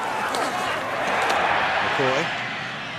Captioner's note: cheering